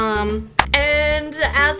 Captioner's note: clap